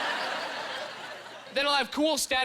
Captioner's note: laughing